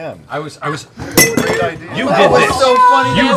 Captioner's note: glass shatters offscreen